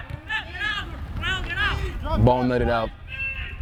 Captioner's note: players shouting